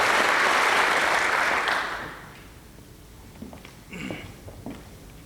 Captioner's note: applause